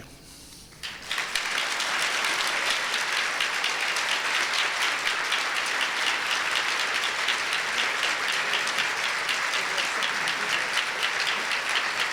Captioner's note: applause